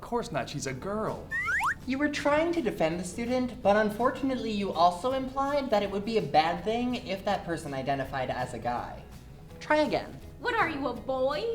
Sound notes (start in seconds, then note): 1.3 slide whistle up